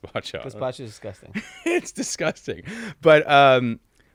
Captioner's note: laughs